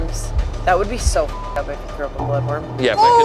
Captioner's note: beep